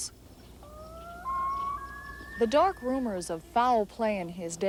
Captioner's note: loon calls